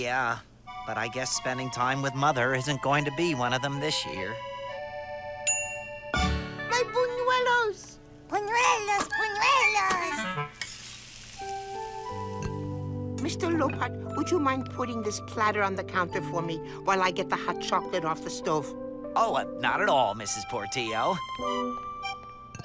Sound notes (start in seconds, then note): 5.8 stove timer dings; 9.8 bunuelos sizzle